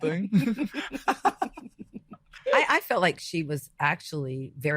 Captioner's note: group laughing